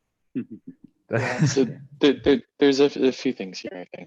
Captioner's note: laughing